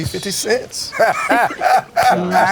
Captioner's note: laughs